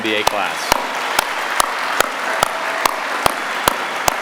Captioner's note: applause